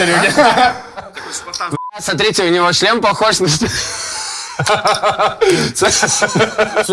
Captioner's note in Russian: смех